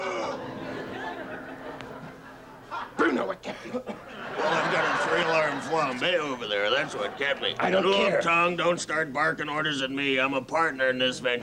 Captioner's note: laughter